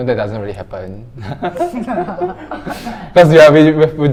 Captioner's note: laughing